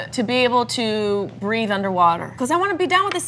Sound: none

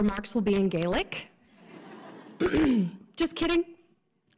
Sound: audience chuckles

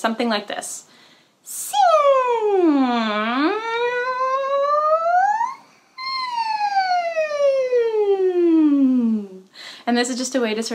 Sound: voice going from high to low to high and back

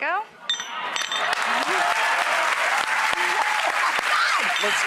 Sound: crowd applauds

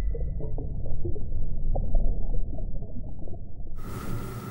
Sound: water gurgling

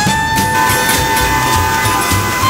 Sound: sweeper honking

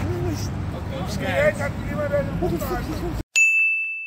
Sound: german

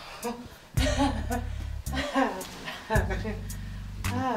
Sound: Renee laughs

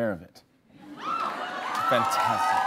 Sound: laughs; cheers

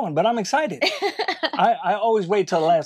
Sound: laughing

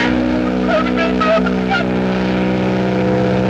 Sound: Stan weeping

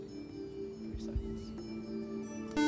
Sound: buzzer

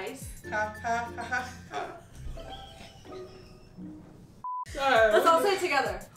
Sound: laughing

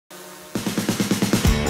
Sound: drone buzzing

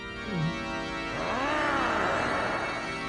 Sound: growling; pink panther gulps

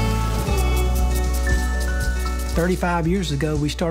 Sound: water sprinkler ticking

